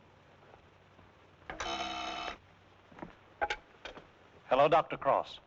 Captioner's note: buzzes